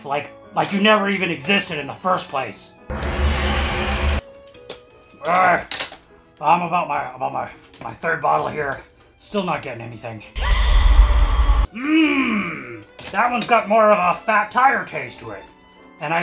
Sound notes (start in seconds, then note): 2.9 sound of the void yawning forth; 10.4 the sound of Hell boiling over